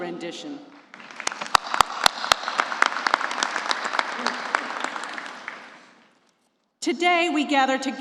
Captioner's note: applause